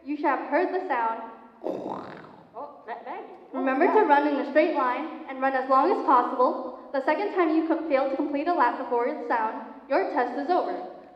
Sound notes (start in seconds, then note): 1.6 growl